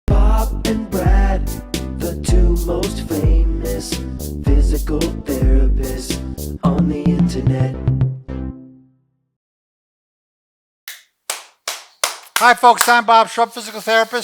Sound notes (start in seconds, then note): 11.3 clapping